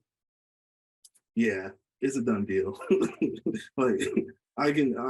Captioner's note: laughs